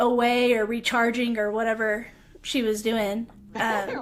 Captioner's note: laugher